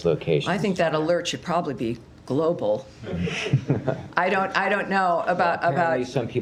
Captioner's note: laughter